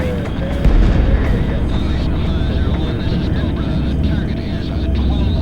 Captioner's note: man on walkie-talkie